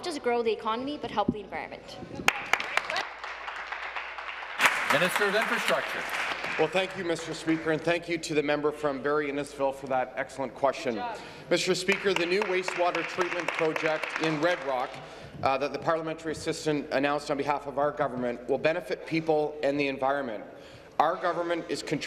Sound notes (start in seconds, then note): 7.0 applause